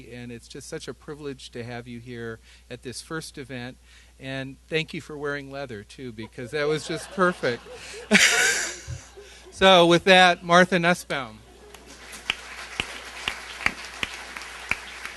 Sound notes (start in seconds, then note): 6.2 laughter; 11.7 applause